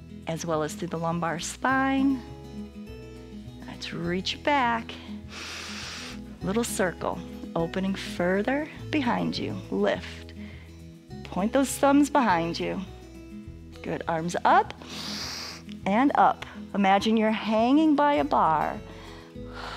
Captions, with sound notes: as well as through the lumbar spine. Let's reach it back, [inhales] little circle, opening further behind you. Lift, point those thumbs behind you. Good, arms up [inhales] and up. Imagine you're hanging by a bar.